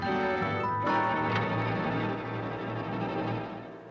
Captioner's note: door opens; eerie suspenseful music